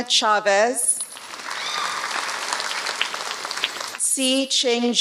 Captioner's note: applause